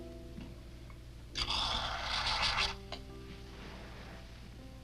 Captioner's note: liquid hissing